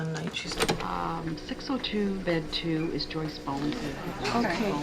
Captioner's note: tape Player Resumes